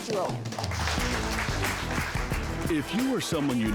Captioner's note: audience clapping